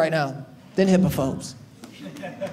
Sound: audience laughing

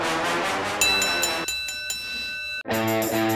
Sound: bell rings; upbeat music

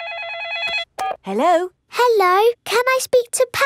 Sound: phone rings

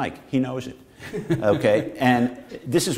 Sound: laughter

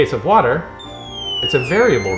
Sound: tone descends and ascends

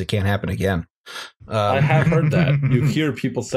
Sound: laughter

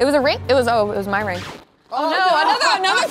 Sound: record scratching sound

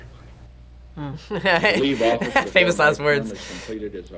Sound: laughs

